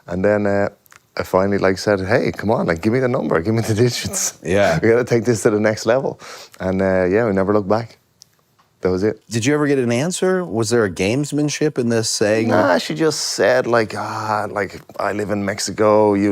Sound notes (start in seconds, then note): 4.6 laughs